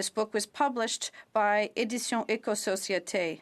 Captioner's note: speaking French